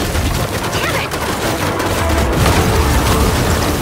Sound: distant explosion

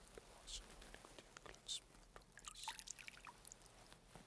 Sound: whispering

